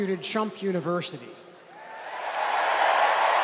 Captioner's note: applause